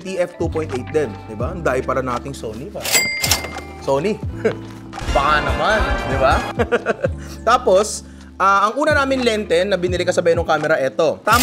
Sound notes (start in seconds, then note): 6.5 laughs